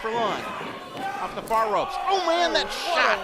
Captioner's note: slap